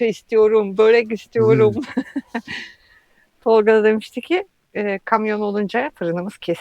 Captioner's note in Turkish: kahkaha